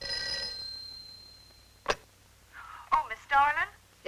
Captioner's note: phone ringing